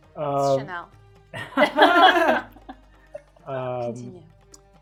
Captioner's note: laughing